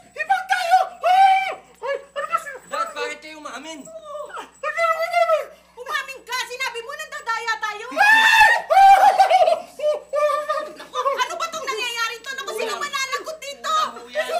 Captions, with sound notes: We're all Hibang. [screams, whimpers] -Dad, why did you confess? -Yeah. Why did I confess? You admitted it. You said we were cheating. [both scream] What is this happening? Who is responsible for this?